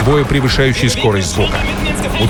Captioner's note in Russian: Говорят по-немецки